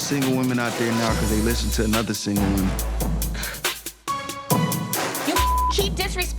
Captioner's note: scoffs; beep